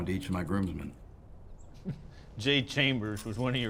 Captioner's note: laughs